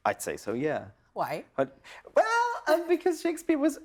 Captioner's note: chuckles